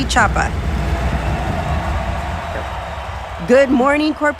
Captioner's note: crowd cheering